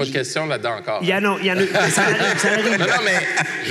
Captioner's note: laughter